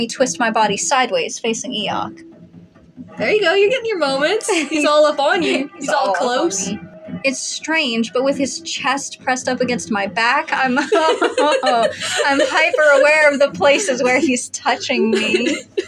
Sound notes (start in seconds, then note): 3.4 giggle; 9.6 laugh; 10.7 flustered Laugh